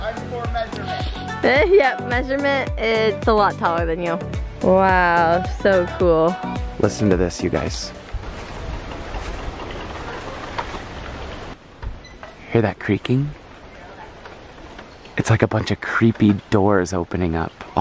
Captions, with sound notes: - I'm the core measurement. - Yup, measurement. It's a lot taller than you. Wow, so cool. - Listen to this you guys. [creaking Sounds] Hear that creaking? It's like a bunch of creepy doors opening up